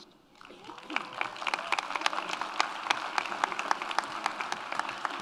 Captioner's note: audience applauds